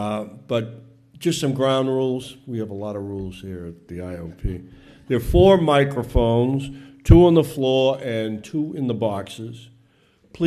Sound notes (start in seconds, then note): none